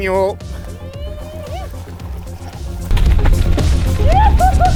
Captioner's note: person whooping